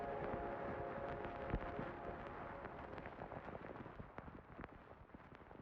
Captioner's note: record player static fuzzing